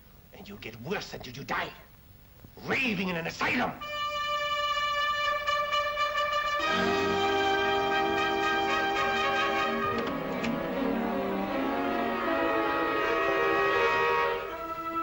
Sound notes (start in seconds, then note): 3.9 dramatic ominous music; 9.4 door opens; 11.6 suspenseful music